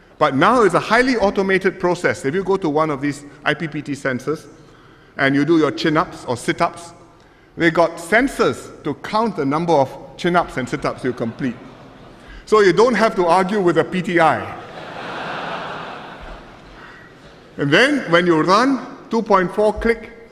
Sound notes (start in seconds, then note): 14.6 laughter